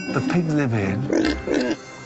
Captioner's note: pig oinking